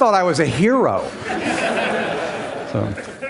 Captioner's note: Laughter; 笑聲